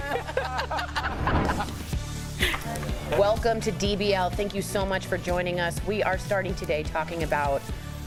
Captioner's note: laughter